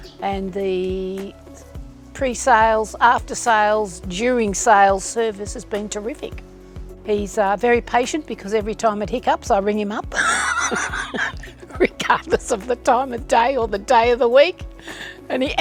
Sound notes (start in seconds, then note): 10.2 laughing